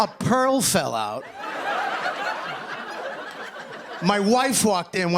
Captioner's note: laughter and applause